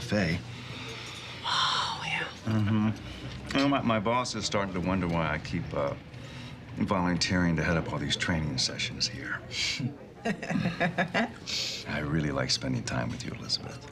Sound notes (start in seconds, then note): 2.4 sighs; 8.5 laughs